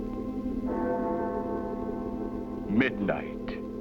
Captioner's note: bell tolls